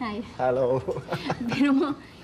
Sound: laughs

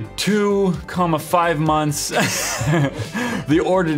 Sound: laughs

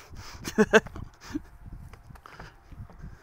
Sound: laughs

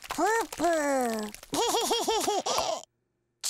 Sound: laughing

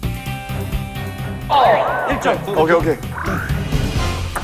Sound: hurray

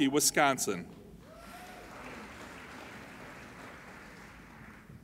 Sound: applauding

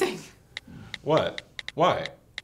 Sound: phone texting

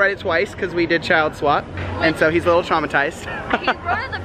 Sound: laughs

